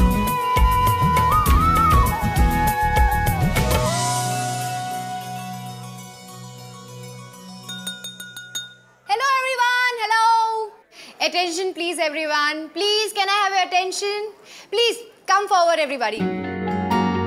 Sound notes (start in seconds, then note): 7.6 glass clinking